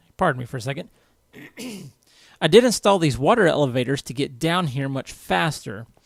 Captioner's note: clears throat